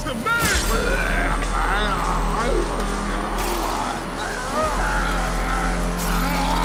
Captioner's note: electricity crackling; William screaming